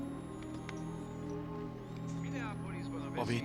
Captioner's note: high-Pitched tone